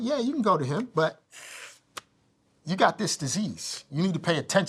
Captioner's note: inhales sharply